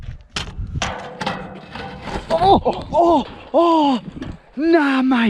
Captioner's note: clanking on guardrail